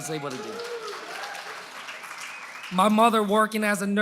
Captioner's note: applause